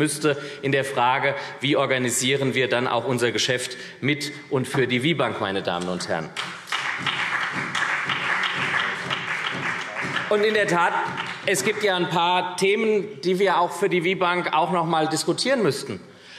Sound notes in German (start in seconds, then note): 6.3 Beifall SPD